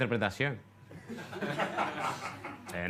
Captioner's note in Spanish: Risas